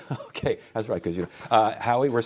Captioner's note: chuckles